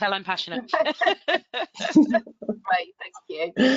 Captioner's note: all laughing